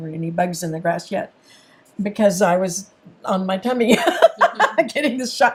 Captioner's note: laughs